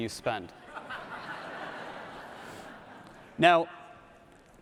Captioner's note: audience laughs